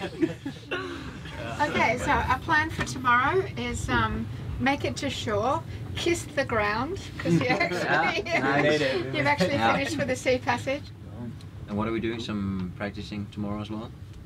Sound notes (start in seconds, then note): 7.2 laughs